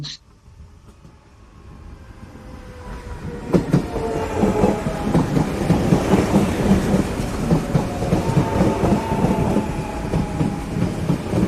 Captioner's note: rhythmic sounds of electric train pulling into station